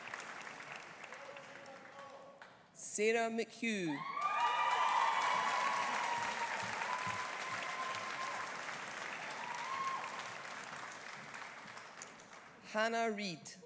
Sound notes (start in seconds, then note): 4.0 audience cheering; 4.0 audience applauding